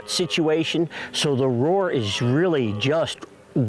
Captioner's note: stag roaring